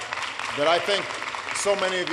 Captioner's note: applause